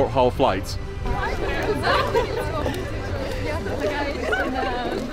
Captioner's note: stewardesses chattering